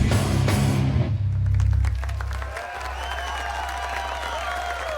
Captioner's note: clapping and cheering